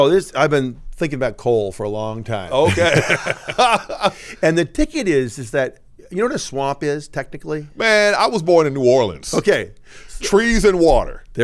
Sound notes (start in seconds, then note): 2.5 laughs